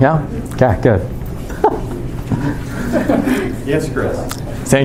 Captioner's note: chuckling